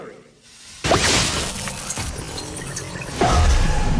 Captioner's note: static